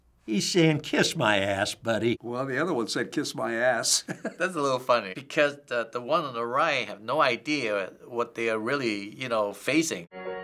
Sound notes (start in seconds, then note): 4.0 chuckles